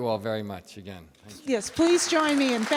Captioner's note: audience applauds